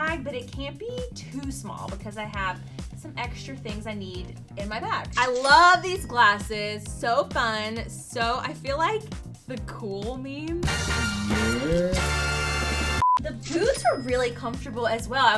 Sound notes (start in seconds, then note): 9.0 exciting music plays; 13.0 screen beeps